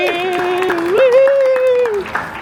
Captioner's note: staff applauds